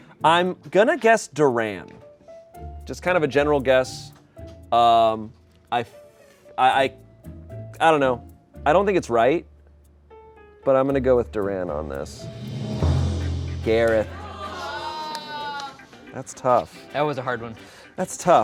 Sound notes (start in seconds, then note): 12.0 deflated music; 12.0 drum roll hisses; 15.0 crew exclaims